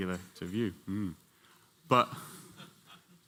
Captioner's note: laughter